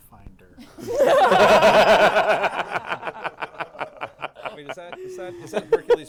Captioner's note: laughter